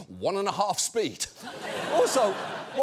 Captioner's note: audience laughs